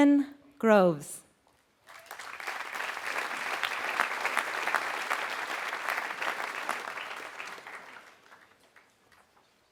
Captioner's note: applause